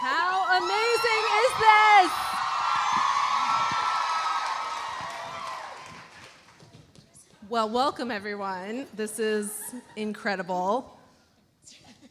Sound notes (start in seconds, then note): 2.3 audience cheering; 2.4 audience applauding; 11.7 Lauren laughs